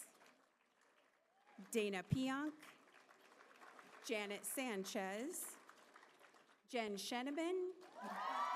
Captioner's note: applause